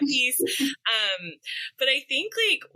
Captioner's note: chuckle